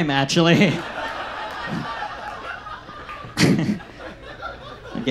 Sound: audience laughs

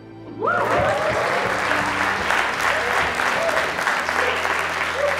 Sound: audience cheers and applauds

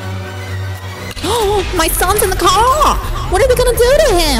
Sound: gasps

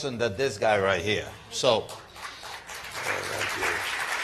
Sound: applause

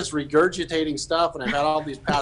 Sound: hosts laughing

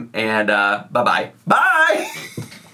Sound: laughs

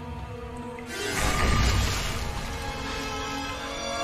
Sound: water splashing; eerie music intensifies

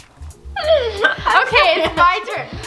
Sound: laughs

